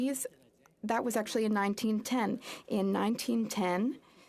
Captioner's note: speaking French